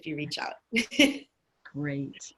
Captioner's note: chuckling